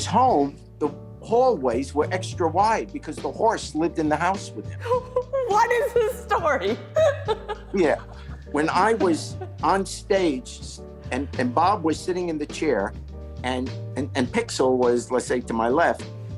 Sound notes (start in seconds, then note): 4.7 laughs